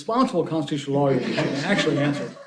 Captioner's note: laughter